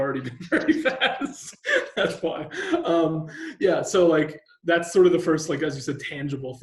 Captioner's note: laughing